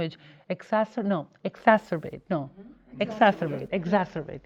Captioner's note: murmuring